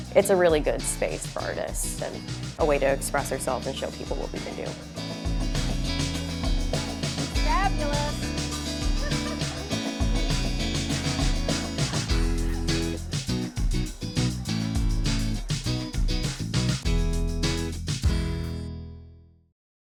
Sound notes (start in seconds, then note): 5.4 upbeat music; 7.8 chuckles; 10.6 upbeat music continues